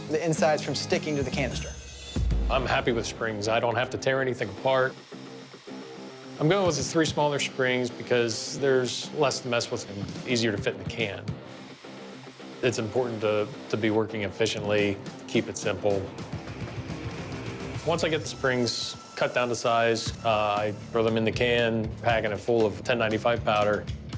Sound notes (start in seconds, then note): 4.9 machine buzzing